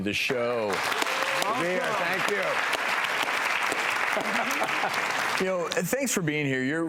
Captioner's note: applause